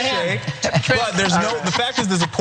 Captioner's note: laugh